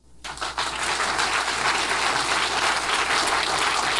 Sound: audience applause

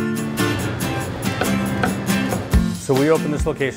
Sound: knife thunking

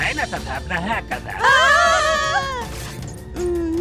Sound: scream

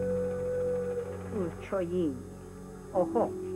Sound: in Native tongue

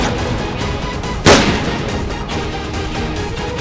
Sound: firing

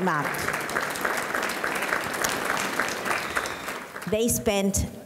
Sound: audience clapping

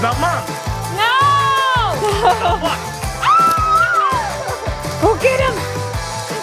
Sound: screams

